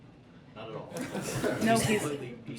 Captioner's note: laughter